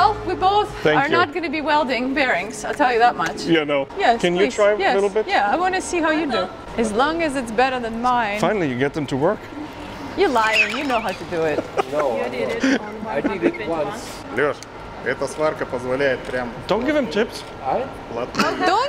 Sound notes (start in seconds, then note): 13.7 laughing